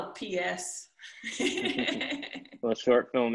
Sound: chuckles

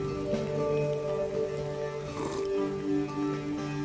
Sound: distinguished slurp

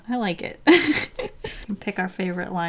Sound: giggle

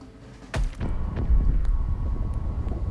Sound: thud

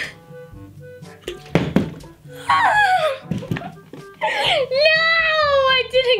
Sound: bottle landing

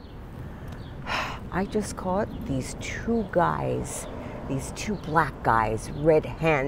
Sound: exhales

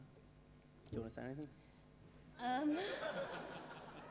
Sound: laughter

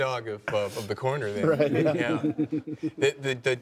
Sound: all laugh

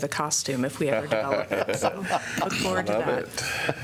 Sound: laughter

